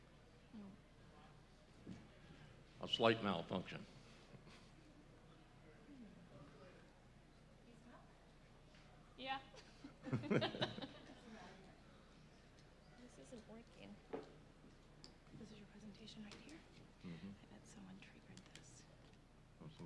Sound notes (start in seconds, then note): 0.0 silence; 5.7 silence; 12.2 laughter